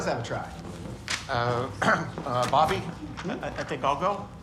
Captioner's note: coughs